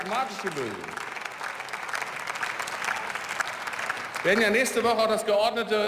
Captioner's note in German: Beifall